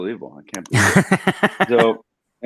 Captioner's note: laughs